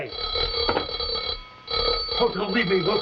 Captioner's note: bell ringing